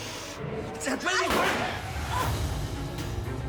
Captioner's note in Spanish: Disparo